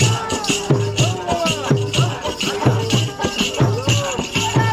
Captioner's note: chanting